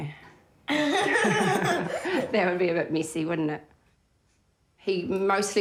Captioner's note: laughs